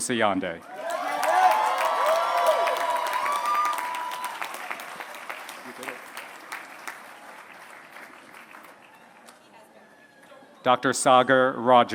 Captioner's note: applause